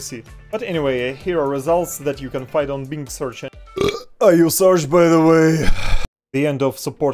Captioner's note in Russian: Отрыжка